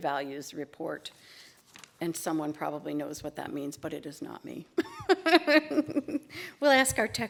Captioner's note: laughter